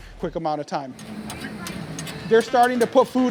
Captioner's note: cookware clatters